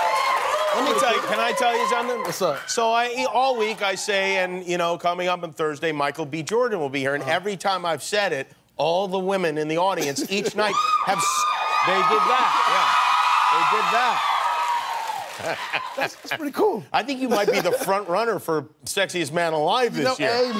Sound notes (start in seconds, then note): 0.0 cheers, applause; 10.6 cheers; 15.3 laughs